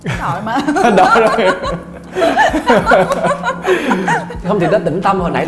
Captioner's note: laughing